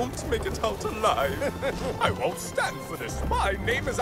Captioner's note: elcano chuckles